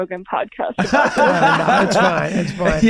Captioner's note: Glenn laughs